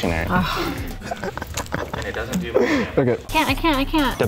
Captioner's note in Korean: 웃음